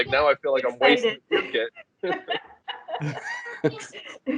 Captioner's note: laughter